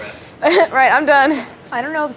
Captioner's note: chuckles